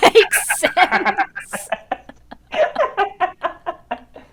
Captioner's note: both laugh